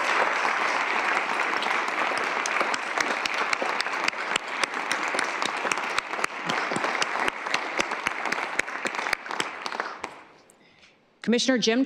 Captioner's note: applause